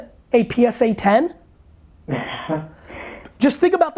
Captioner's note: laughs